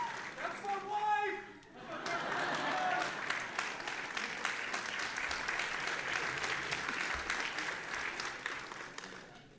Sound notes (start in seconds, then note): 1.7 audience laughing; 1.9 audience applauding